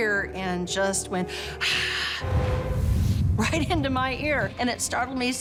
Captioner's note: raspy breath